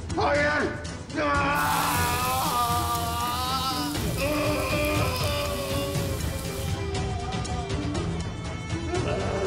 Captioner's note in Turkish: Haykırıyor